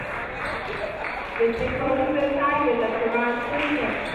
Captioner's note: clapping